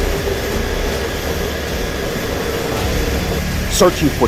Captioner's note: plane engine buzzing